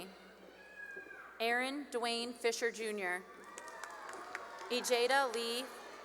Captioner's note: cheering; cheering and applause